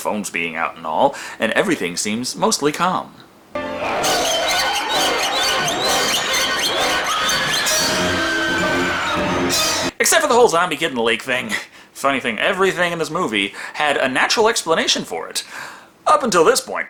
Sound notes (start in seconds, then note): 3.9 growling; 7.2 scream